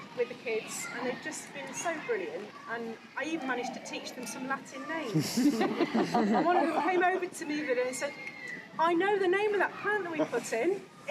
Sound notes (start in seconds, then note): 5.1 crowd laughing